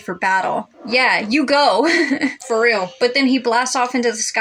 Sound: laugh

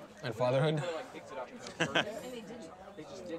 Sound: laughs

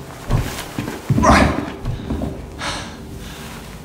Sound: thud; panting

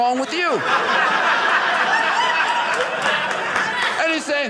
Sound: audience laughing

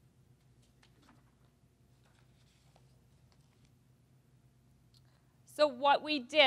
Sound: silence

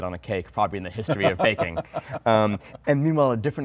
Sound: laughs

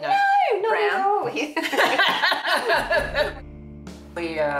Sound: laughing

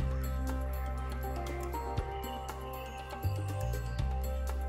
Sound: birds chirp

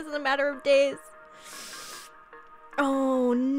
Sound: sucks in a long breath

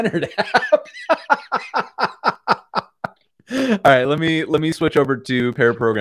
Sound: laughter

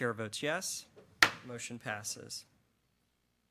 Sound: gavel clangs

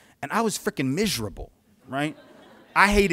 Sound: polite laughter

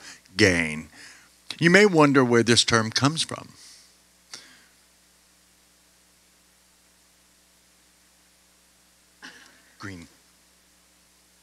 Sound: pause

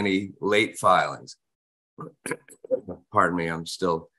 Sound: coughs

